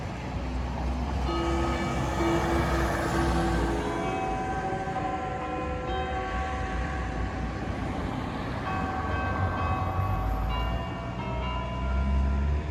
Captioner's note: chimes sound in the clock tower